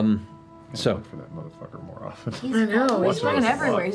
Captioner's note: whispers